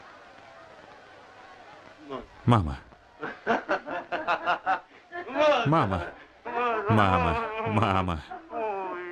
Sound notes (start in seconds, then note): 3.5 laughing; 6.8 chuckling